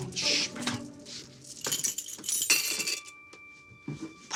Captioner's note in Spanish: Tintineo de llaves